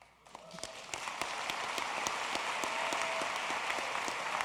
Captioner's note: applause